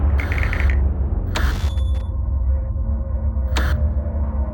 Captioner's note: intense ambience; tv static